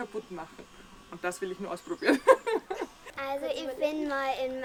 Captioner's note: laughs